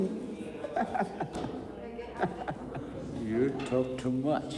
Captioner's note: prisoner laughing